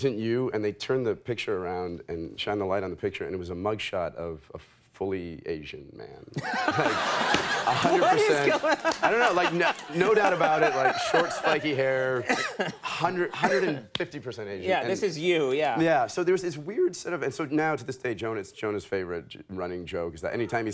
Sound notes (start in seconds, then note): 6.4 crowd laughing